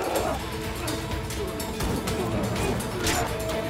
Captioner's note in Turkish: Kılıç sesleri